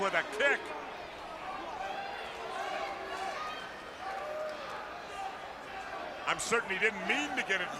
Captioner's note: crowd chatter